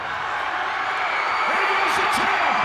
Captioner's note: audience cheers